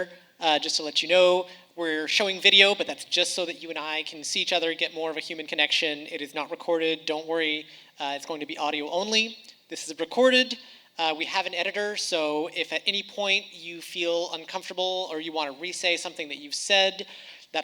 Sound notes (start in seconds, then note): none